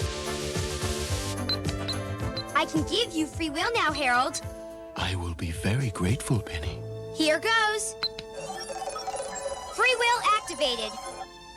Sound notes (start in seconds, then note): none